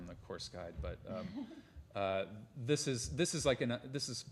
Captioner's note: laughter